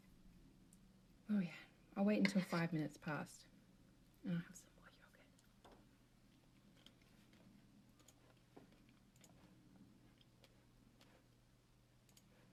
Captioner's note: whispers